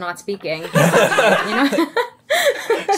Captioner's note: laughing